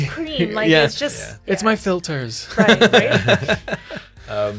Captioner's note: laughs